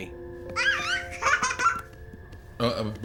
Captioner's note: babbles excitedly